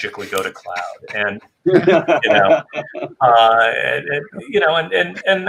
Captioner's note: everyone chuckling